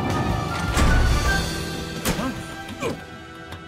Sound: door slamming; grunting

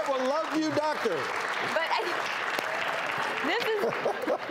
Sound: laughter and applause

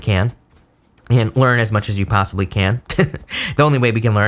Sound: chuckles

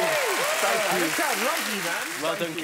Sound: shouting

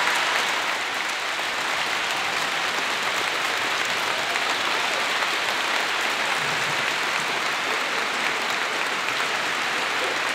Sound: applause

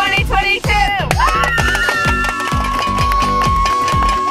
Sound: cheering

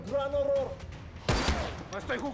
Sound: Disparo

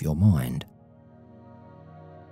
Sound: 15s silence

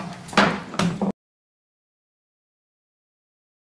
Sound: gavel bangs

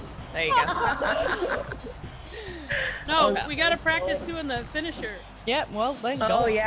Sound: laugh

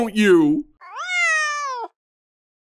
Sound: meows

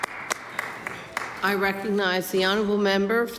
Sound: some Applause

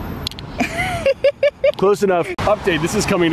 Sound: laughing

